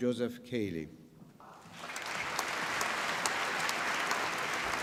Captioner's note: applause